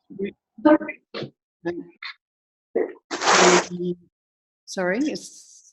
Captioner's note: line scratching